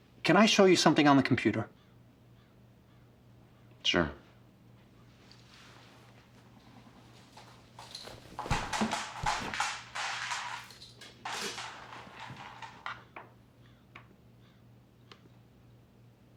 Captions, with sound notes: - Can I show you something on the computer? - Sure. (shackles clanging)